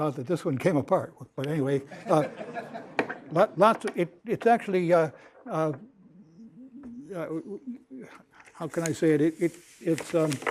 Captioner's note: laughter